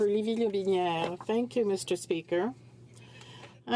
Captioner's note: speaking french